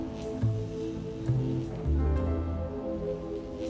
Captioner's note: electricity buzzing